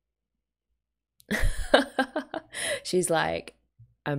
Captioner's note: laughs